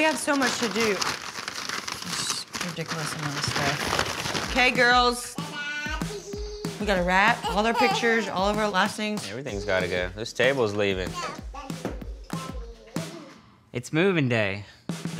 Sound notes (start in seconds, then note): 5.4 babbling